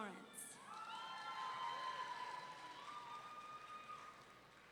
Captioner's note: audience cheering